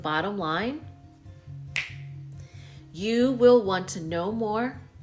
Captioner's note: finger snap